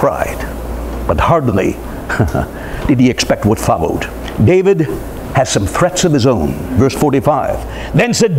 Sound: dry laughter

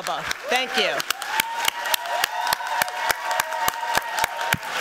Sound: applause

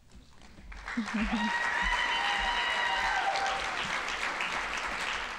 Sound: audience applauding

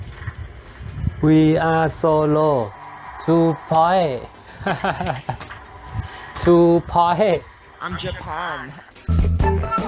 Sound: laughs

